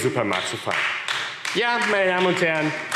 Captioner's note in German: Beifall AfD